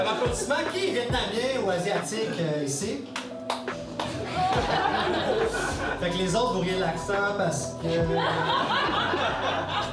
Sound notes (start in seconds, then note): 3.6 little applause; 4.2 laughs; 8.1 laughs